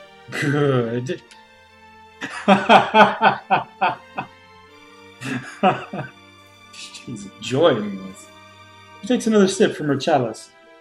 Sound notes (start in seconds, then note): 5.2 laughs